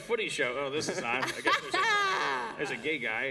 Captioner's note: laughter